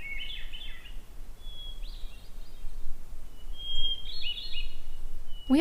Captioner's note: bird song